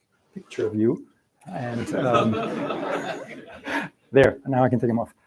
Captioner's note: laughter